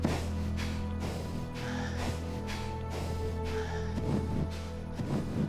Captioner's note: Samson's breathing slows and steadies